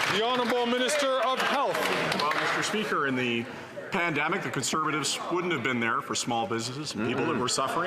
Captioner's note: some Applause